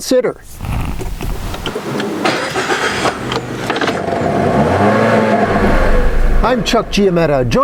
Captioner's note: start up sounds